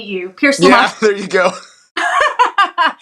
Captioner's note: laugh